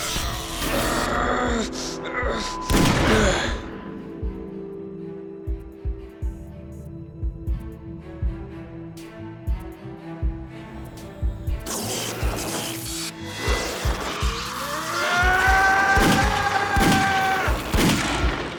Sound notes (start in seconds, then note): 13.1 yells